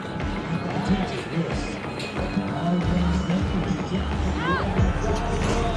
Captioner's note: event announcer speaking faintly